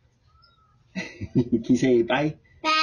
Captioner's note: chuckles